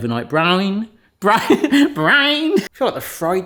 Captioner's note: chuckling